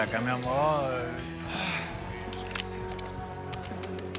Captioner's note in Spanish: Gruñe